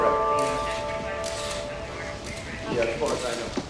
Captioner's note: police radio chatter